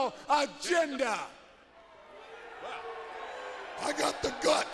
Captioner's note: crowd cheering